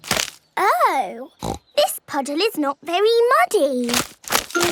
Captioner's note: snorting